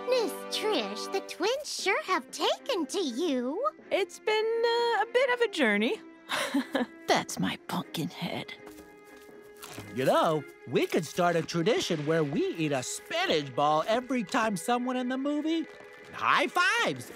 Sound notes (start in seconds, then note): 6.3 chuckles